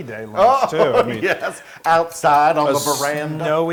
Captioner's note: laughs